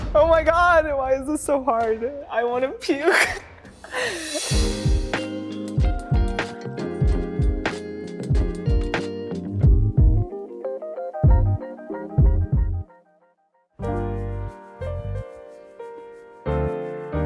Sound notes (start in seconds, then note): 2.8 laughing; 4.7 mid-tempo bright music; 13.8 gentle jazz music